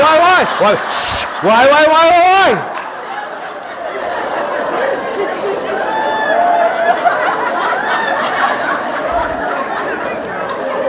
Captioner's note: audience laughing